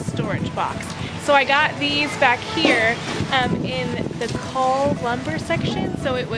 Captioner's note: muffled by wind